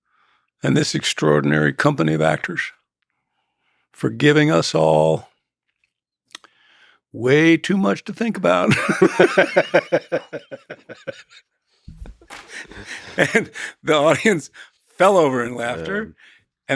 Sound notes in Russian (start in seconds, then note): 8.6 оба смеются